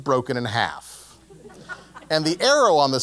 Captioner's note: laugh